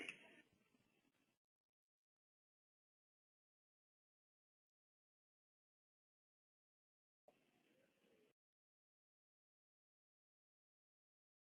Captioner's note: silence